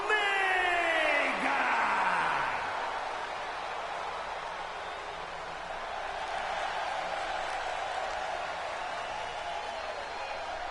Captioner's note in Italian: Applauso